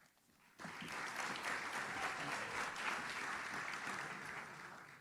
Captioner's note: audience claps